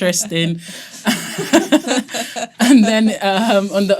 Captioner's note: all laughing